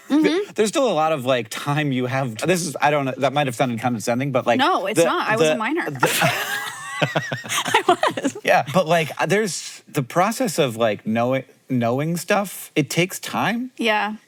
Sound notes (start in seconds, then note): 0.0 chuckles; 6.0 both laugh